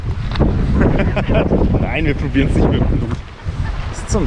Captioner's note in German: lacht